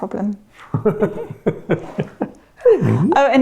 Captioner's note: laughing